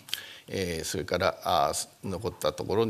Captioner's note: speaking japanese